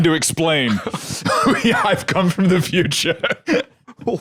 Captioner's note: laughing